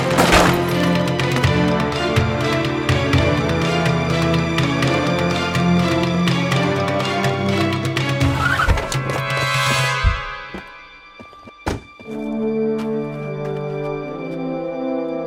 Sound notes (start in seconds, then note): 0.0 trash can clatters; 2.1 dramatic music continues; 8.1 tires screech; 9.3 dramatic music; 11.6 car door thuds; 12.7 bright music